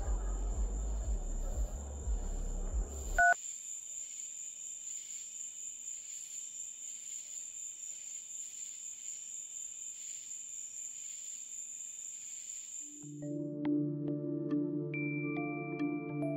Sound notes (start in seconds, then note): 3.2 phone beep; 5.4 crickets chirping; 13.0 mysterious music